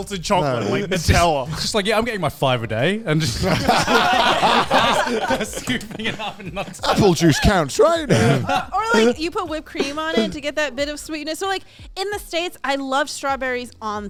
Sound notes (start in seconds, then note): 10.0 all chattering